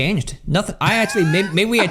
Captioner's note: laughs